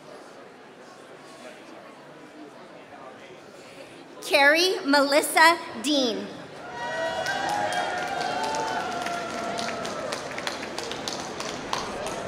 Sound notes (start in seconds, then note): 6.9 applause